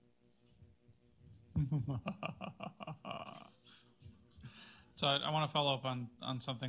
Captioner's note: devilish laugh